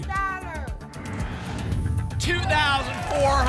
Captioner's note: whoosh